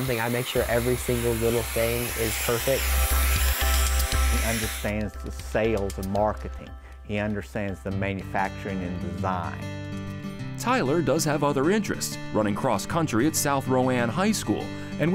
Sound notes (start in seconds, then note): 3.1 high-powered sucking of air; 3.1 repetitive bright music